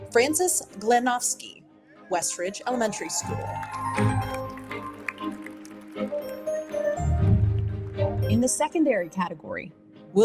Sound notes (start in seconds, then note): 2.7 audience applauding; 3.9 audience cheers